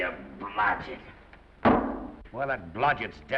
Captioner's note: foot thuds